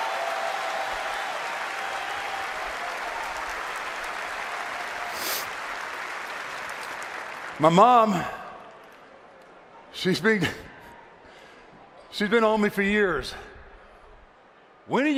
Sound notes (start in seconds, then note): 0.0 applause; 3.3 cheering